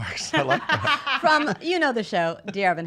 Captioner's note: laughing